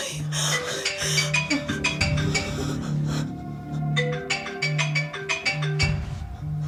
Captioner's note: phone rings and vibrates inside box